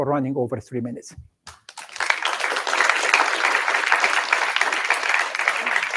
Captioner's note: applause